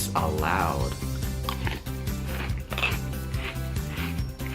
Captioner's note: crunching